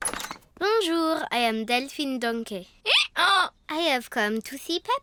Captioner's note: brays